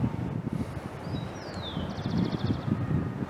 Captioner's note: birds chirping